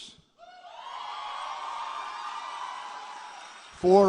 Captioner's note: applause